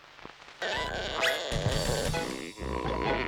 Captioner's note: creaking